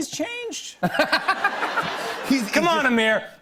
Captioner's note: laughter